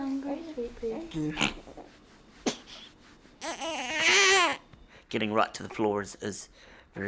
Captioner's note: baby crying